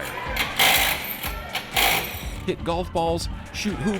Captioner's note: wrench whirring